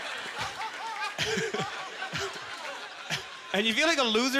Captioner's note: audience laughter; laughing